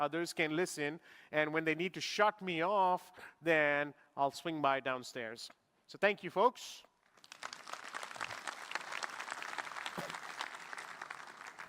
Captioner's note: applause